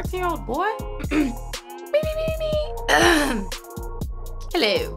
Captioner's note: vocalizes